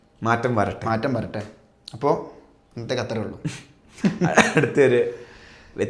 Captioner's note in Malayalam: പൊട്ടിച്ചിരി